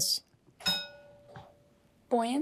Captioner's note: bell dings; failure chime